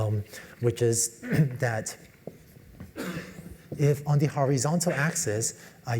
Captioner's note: cough